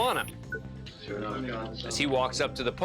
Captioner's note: indistinct chatter